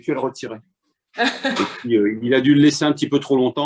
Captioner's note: laughter